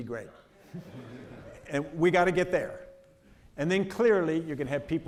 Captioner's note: audience laughing